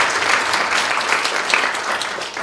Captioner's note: applause